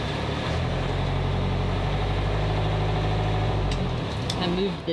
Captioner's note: engine purring